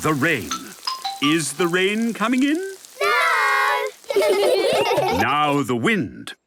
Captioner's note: laughter